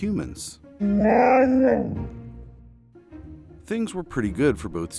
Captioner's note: dog moans